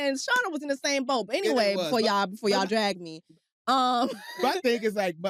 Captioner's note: laughs